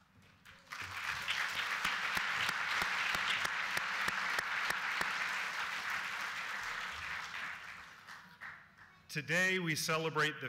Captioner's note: applause